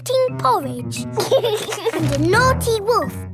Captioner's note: george giggles